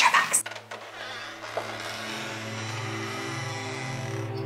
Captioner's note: door creaking